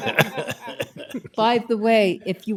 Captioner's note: laughter